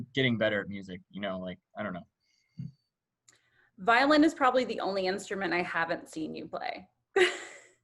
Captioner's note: laughter